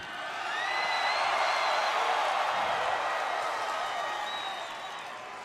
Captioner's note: applause